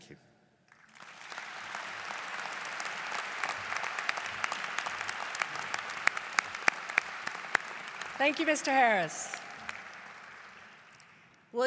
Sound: applause

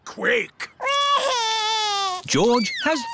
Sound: crying

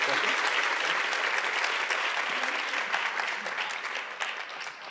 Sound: audience applauding

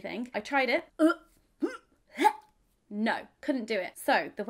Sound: gagging

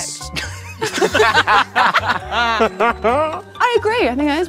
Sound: group laughs

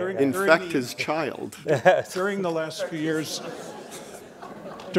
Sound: laughter

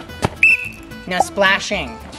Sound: whistle blows

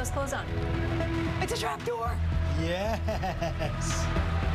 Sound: laughter

